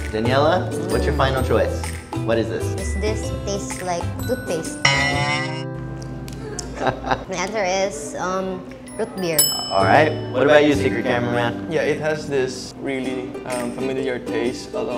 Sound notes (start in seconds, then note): 6.6 laughing